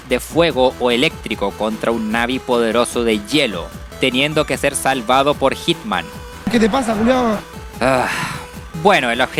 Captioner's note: sigh